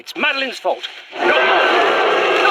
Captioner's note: distant guttural scream. running as the thrall suddenly breaks from cover nearby